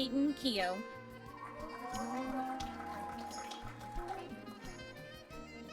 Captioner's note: applause